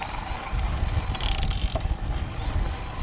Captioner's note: motor whirring; spokes ticking; motor whirring